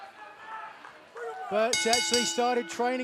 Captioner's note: bell ringing